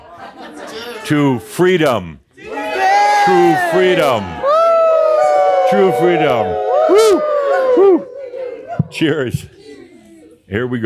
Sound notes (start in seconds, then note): 2.4 audience shouts “Wooo!”